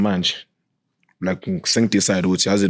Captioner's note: none